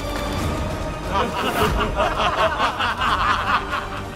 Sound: laughs

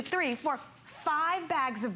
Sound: counting

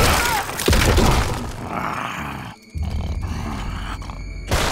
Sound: grunting; snarling

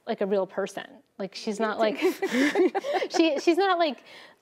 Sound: laughs

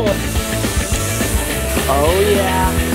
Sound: buzzes

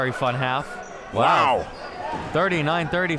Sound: in Unison

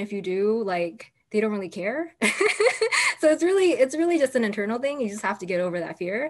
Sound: laughter

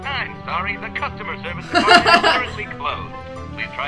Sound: laugh

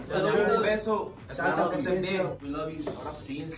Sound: in foreign language

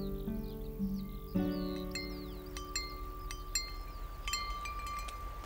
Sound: wind chimes clink

